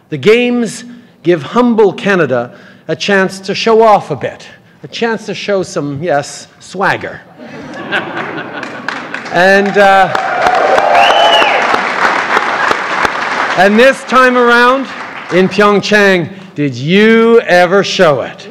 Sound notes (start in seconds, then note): 9.6 laughter, cheers & applause